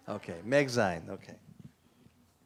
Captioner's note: non-english